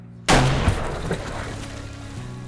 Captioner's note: gunshot